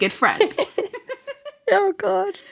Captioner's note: laughing